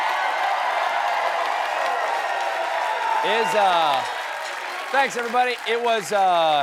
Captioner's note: cheers and applause